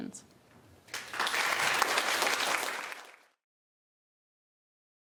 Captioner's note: applause